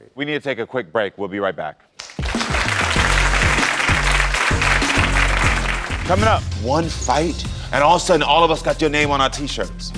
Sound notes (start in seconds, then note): 2.0 audience applauding; 2.0 upbeat music